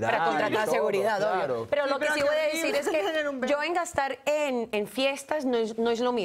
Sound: Hablan al unísono

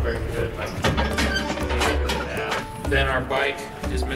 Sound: creaking

